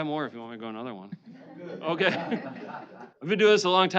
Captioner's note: laughing